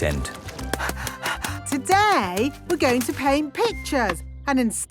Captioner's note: panting